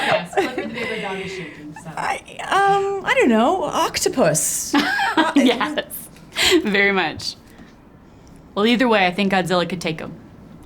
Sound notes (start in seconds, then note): 4.8 laughing